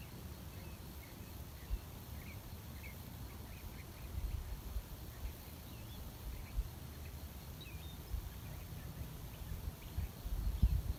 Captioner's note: birdsong in background